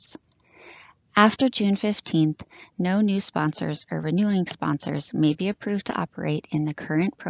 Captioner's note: click